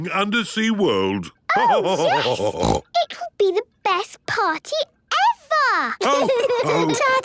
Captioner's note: laughter and snorting; laughter